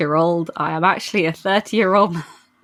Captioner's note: laughs